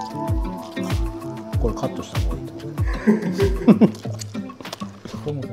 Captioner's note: laughs